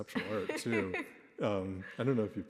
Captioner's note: laughing